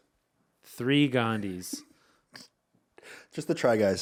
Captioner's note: laughing